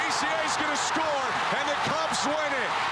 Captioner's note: applause